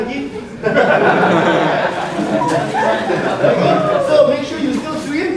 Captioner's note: audience laughing